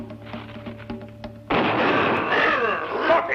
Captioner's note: gunshot